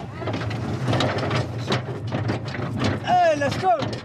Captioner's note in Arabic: صوت ارتطام الشاحنة